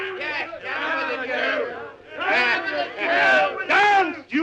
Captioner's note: group chattering